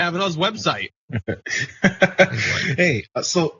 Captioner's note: laugh